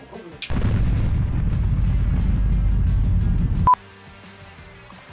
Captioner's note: explosive thunders